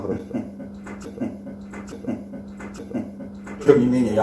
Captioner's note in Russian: дьявольский смех